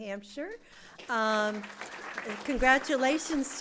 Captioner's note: applause